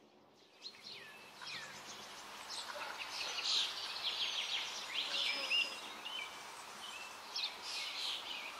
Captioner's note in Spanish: sonidos de río, trinos de pájaros